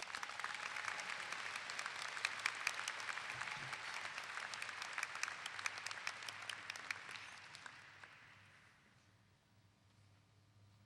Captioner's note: clapping